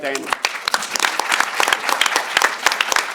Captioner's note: claps